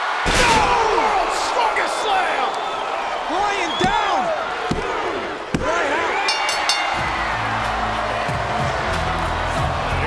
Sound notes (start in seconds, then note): 0.2 body slams; 6.2 bell dings